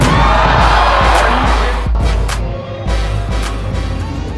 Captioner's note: crowd cheers